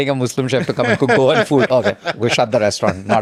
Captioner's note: laughs